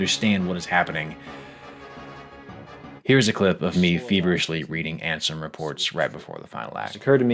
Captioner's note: breaths in